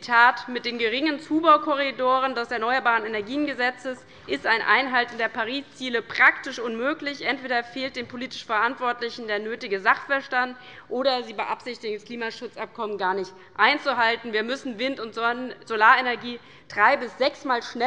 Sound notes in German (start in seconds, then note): none